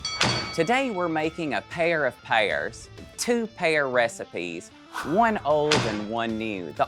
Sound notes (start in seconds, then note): 0.0 bell dinging